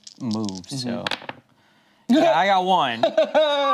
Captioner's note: laughs